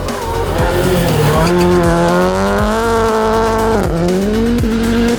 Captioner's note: car revving